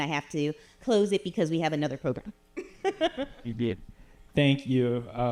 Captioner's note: chuckles